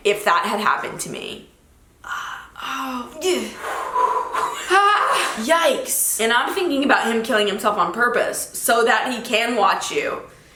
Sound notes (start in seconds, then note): 2.0 sighs; 2.1 exhales sharply